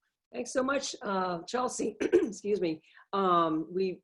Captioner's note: coughs